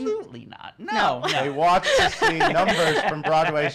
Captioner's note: laughing